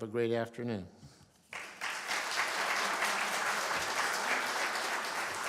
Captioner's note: applause